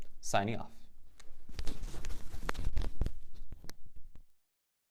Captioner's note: mic noise